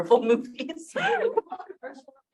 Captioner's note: chuckles